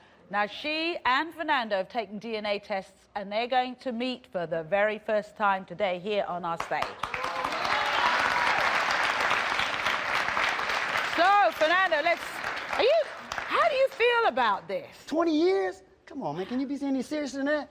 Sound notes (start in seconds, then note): 6.6 applause